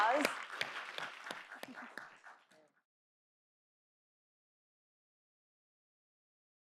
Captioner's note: clapping